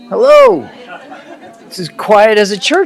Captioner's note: laughter